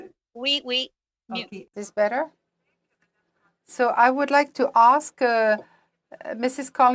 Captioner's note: speaking french